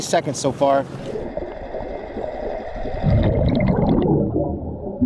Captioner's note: underwater sounds